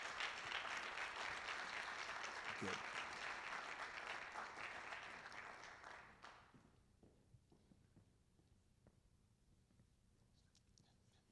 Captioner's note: applause